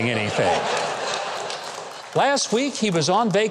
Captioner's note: audience laughing